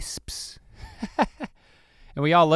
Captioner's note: Link chuckles